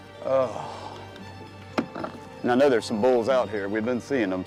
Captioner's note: sighing